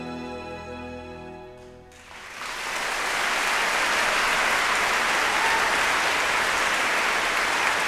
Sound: applause

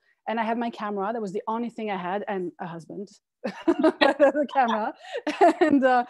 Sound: both laughing

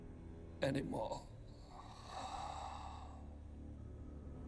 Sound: exhales

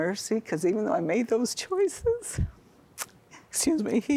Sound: weeping

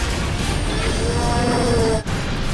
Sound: roars in pain

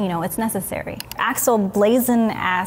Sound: mouse clicking

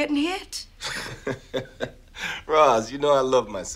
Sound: laughs

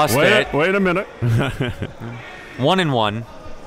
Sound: laughs

